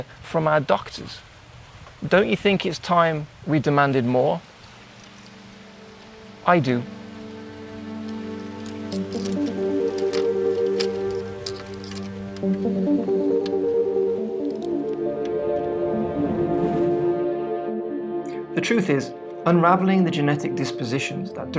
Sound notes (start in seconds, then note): 7.6 dramatic music; 10.5 spanner clanks; 12.6 dramatic music; 15.7 air whooshes